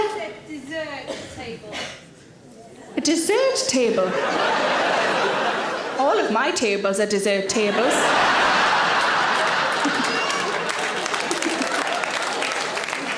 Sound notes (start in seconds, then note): 3.8 audience laughing; 8.0 audience applauding